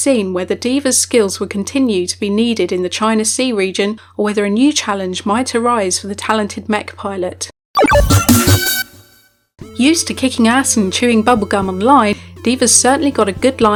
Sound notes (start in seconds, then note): 7.7 technological music; 9.7 voiceover